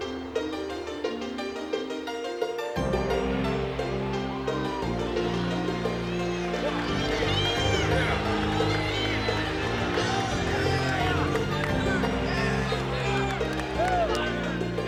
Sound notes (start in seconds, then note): 4.7 crowd cheering